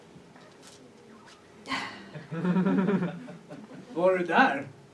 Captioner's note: she sighs; audience laughs